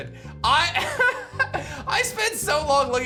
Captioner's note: laughs